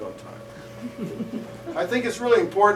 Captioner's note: laughter